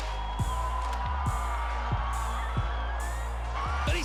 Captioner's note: cheering